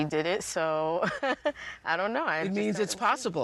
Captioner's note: chuckles